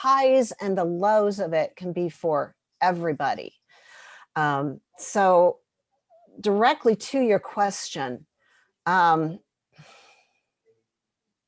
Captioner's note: sighs, deep breath